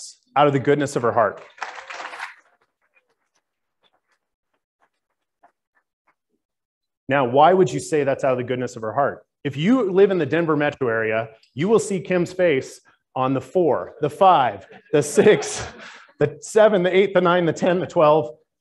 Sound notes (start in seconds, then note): 1.3 applauding